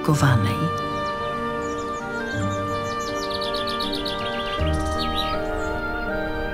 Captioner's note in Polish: słychać śpiew zięby